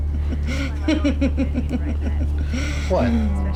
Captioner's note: laughing